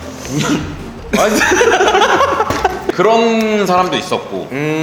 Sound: only laughter in embarrassment

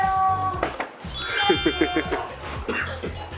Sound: he he

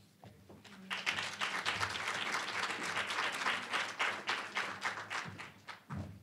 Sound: applause

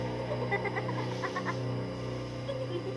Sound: Annie Laughs

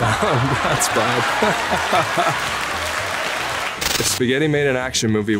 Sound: laughs

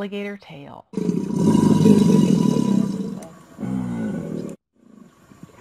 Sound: alligator bellowing

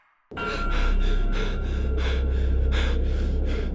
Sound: JAKE breathes rapidly

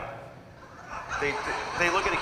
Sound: audience laughing

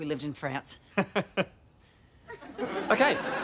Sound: laughs

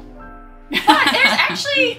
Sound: laughing loudly

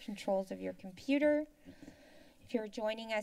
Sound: inhales

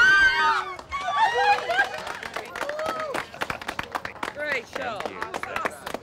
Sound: cheers and applause; laughs

